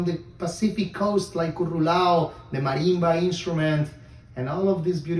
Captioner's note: speaks foreign language